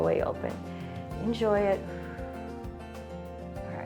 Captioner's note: exhales